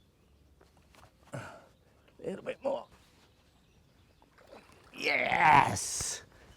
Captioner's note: grunts